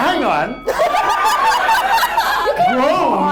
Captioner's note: audience laughs